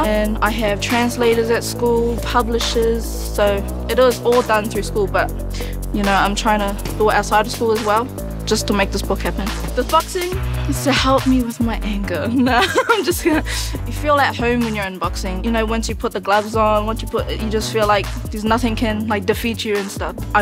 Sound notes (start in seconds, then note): 12.3 laughs